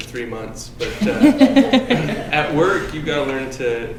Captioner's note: laughing